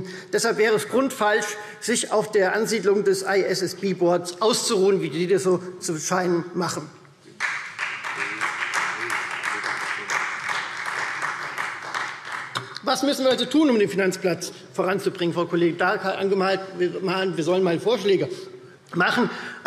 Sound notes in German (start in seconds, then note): 7.4 Beifall Freie Demokraten